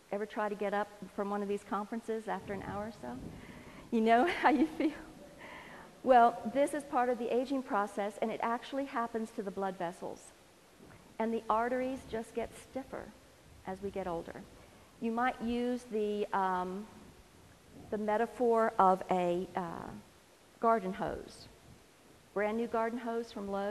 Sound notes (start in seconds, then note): 4.3 laughs